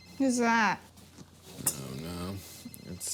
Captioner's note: phone rings